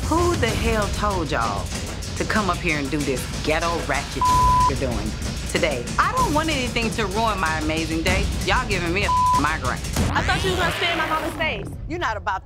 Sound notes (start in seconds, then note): 4.2 beep sound; 9.0 beep sound